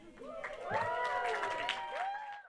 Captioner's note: audience cheering and applauding